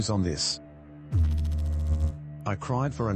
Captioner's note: electrical noise